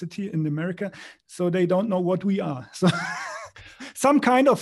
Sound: laughs

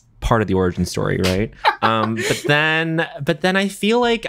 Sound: john laughs

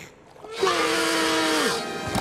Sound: screaming

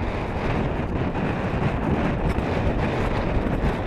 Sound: strong wind

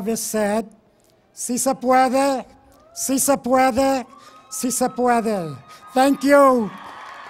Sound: speaking in Foreign Language

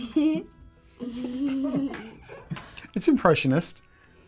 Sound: kids laughing

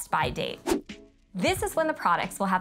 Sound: graphic whooshing

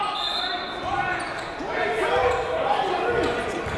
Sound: whistle

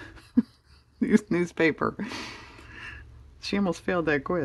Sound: laughs

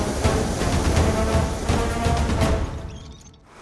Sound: wind whooshing

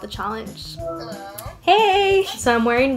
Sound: phone whirs

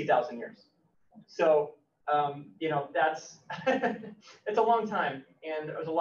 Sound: laughs

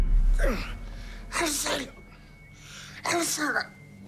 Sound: hoarse voice

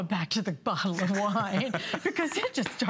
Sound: laughter

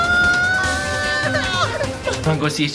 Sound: whimpering

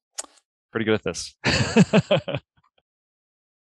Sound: laughs

